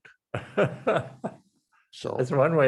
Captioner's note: laughs